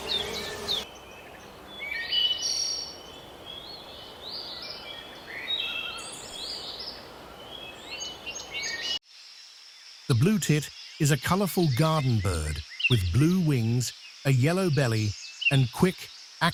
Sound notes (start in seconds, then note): 0.0 birds chirping